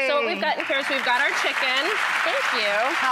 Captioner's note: audience claps